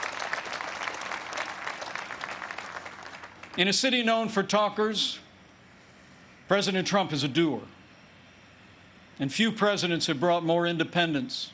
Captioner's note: applause